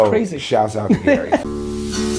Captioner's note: Gary laughs